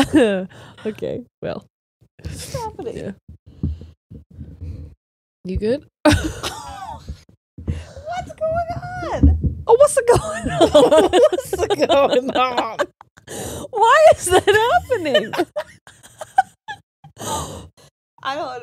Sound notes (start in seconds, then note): 10.0 all laughing; 15.8 all laughing